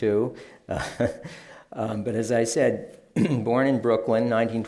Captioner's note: laughs